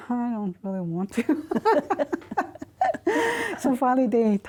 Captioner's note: laughter